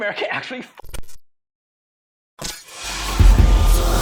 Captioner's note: electric crackles; chiming music; air whooshes